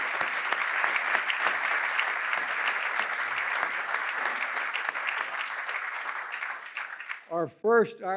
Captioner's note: applause